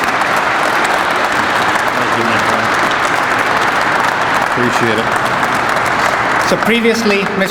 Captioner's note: crowd applauds